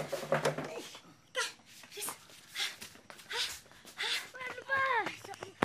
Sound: panting

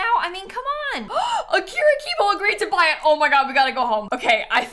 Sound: gasps

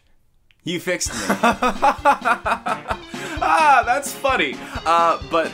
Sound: laughter; clown Music

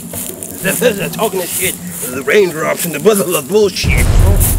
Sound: mumbling: Always talking shit...blah blah raindrops

